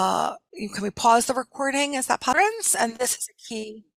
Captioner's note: audio distorts